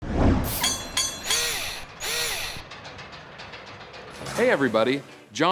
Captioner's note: mechanical SFX